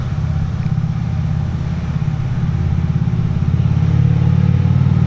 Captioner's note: engine whirring